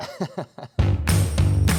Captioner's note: chuckling; upbeat rock music